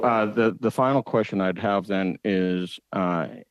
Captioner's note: speaking French